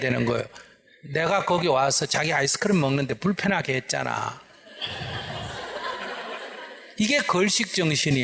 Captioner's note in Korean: 청중 웃음